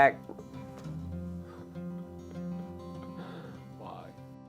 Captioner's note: crying from self loathing